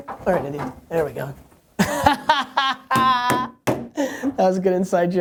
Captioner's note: laughs